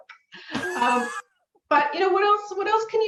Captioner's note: laughs